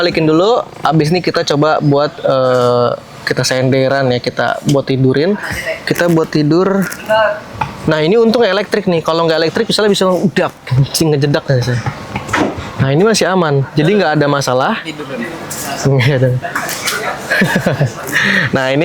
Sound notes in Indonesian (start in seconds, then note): 15.7 tertawa